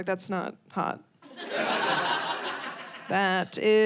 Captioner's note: audience laughing